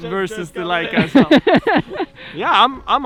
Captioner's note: laughing